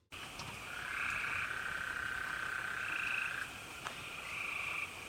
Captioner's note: insects chirping